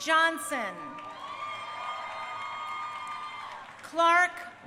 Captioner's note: crowd cheering